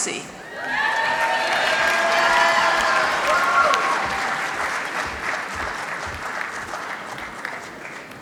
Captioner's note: applause